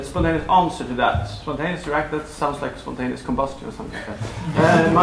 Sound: laughter

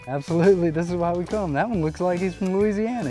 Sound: splashing

